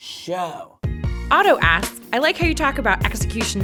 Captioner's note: voiceover